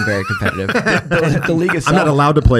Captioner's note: everyone laughs